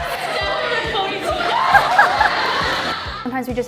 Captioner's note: laughing